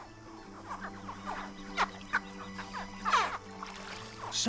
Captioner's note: chittering